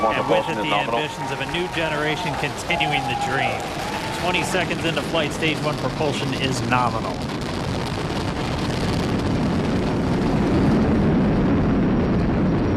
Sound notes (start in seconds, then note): 5.8 cheering and Applause